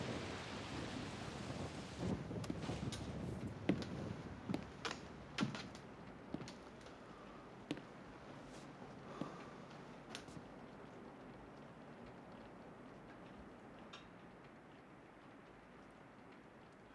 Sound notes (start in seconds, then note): 0.1 rain pattering; 9.1 sighs wearily